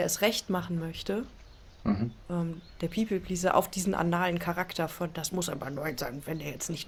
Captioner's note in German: räuspern